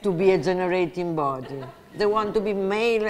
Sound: audience laughs

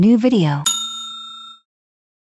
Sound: 🔔 Ringing Bell 🔔

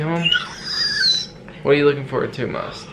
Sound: excited squeal

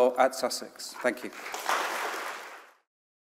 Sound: audience applauses

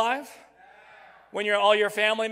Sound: crowd

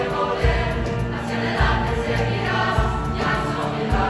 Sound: voices

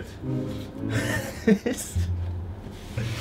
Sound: laughter

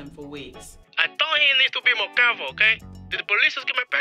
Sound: voiceover

